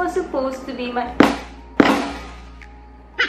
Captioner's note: loud thud